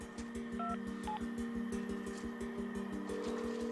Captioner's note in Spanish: Sonido al marcar